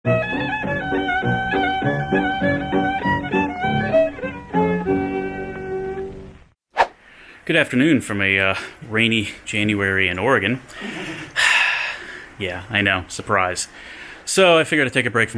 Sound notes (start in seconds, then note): 6.4 sound effect; 10.7 sighs